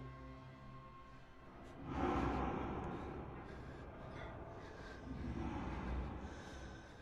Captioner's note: soft eerie music; Sammy breathing heavily